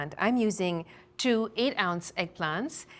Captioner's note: none